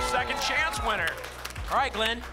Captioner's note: applause and cheering